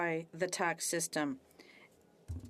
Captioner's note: speaking French